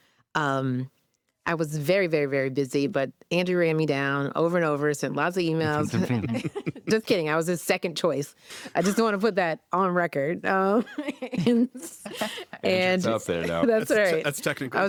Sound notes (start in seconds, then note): 5.6 laughter; 10.7 laughter